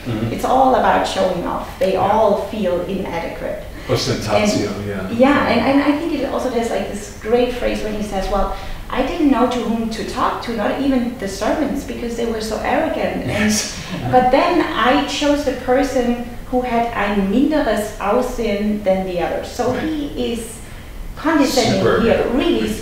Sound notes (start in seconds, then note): 17.3 foreign language